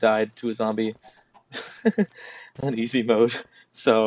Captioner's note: laughs